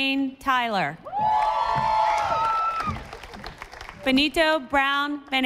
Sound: audience applauding

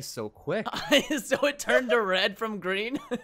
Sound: laughs

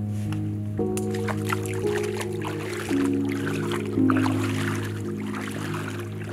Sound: footsteps splashing

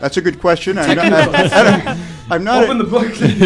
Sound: laughter

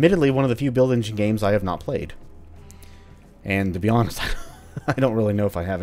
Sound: chuckles

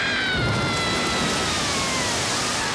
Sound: screams

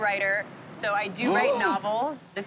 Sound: gasps

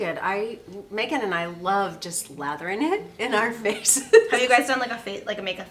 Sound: laughs

